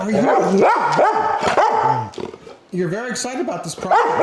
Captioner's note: dog barking